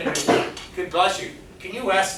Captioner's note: student sneezes